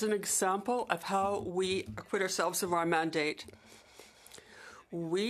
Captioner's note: speaking French